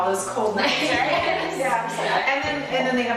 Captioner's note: laughs